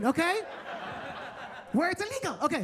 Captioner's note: attendees laughing